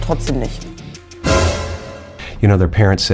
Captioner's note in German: Erschreckende Töne